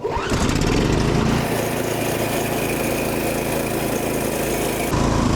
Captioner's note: snowblower engine roaring